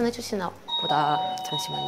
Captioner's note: ding